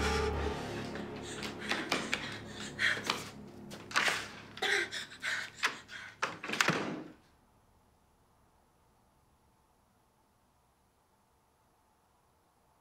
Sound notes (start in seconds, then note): 1.5 Lyne panting